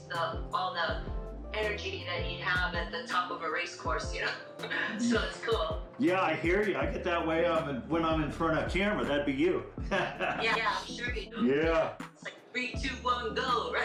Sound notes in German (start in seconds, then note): 4.7 lacht; 9.9 lacht; 13.5 lacht